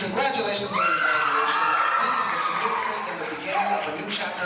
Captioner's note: audience applauding